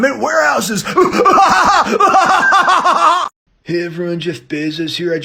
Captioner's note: laughs